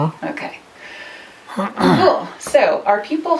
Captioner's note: clears throat